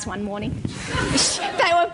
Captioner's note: laughter